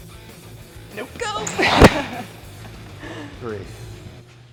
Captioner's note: chuckles